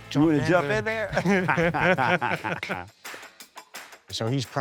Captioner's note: both laugh